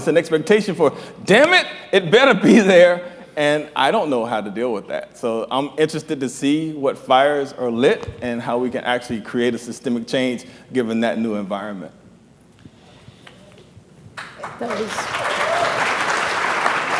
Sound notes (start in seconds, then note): 14.1 applause